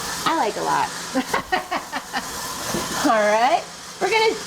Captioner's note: laughing